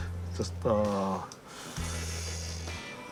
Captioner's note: inhales